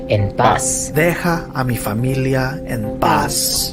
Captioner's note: non-english speech